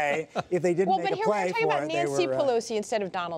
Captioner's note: laughter